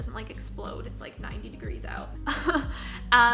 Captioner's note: chuckles